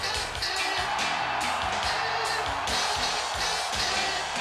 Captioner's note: fans cheering